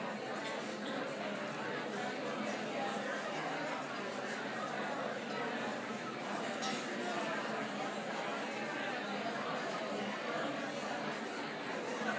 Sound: background chatter

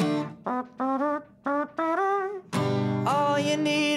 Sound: imitating trumpet

